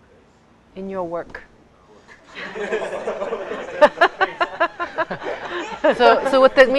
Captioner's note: students laugh